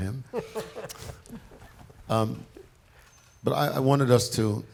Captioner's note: laughing